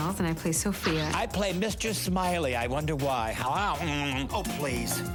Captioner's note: makes funny noise